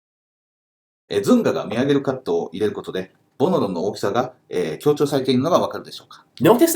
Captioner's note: speaking Japanese